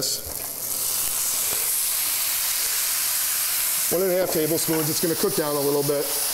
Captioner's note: sizzling